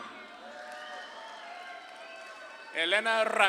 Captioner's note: audience claps and cheers